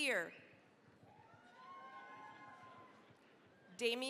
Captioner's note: cheering, applause